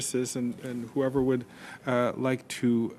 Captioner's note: speaking French